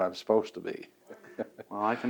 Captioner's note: laughs